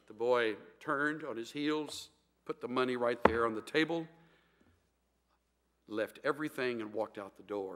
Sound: hits pulpit

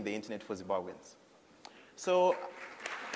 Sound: applause

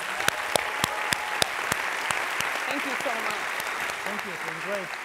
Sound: audience applauding

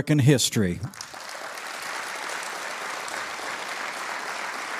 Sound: audience applauding

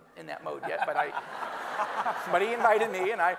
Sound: everyone laughing

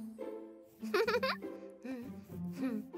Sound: chuckles

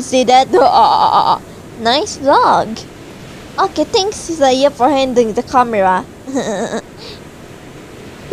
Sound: Seiya: *giggle

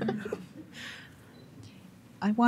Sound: laughing

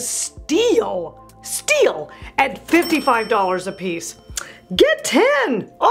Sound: bell rings

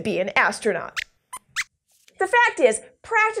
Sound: squeaks squeaks

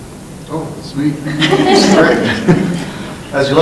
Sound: laughing

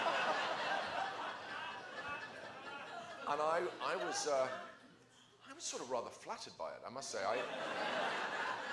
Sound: laughter

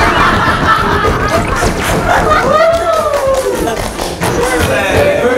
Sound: laughing at the antics of the baby tiger

